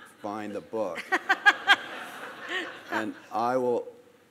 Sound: host and audience laughing

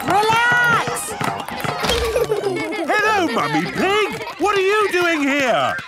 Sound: laughter

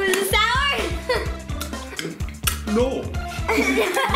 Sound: smacking lips; laughing

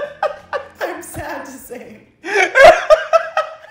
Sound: laughs; laughing; laughs

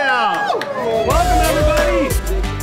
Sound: cheering

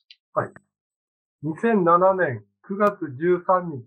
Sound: speaking japanese

